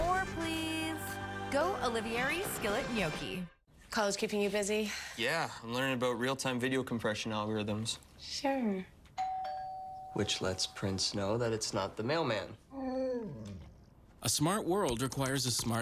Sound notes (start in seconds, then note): 9.2 doorbell rings; 12.7 whimper